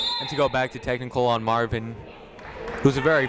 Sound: whistle blowing

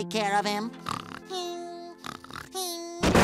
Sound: snoring; meowing

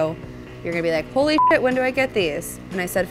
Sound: beep

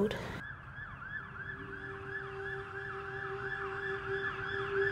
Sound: police siren wailing

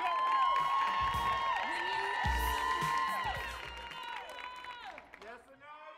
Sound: audience cheering and applauding

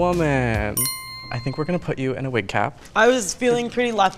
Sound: bell dings

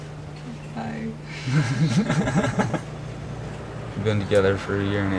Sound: laughter

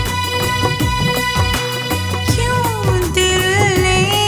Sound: none

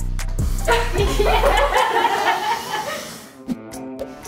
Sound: people laughing

